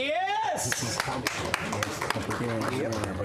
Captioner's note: applause